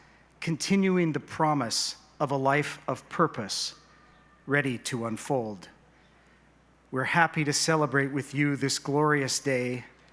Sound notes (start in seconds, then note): none